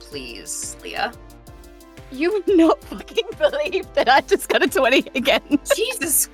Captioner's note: laughs